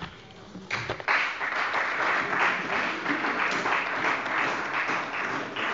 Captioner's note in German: Beifall bei der CDU und dem BÜNDNIS 90/DIE GRÜNEN